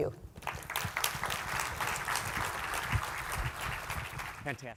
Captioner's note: audience applause